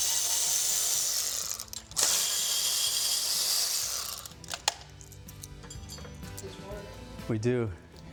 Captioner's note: buzzing